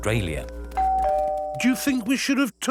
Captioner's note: doorbell rings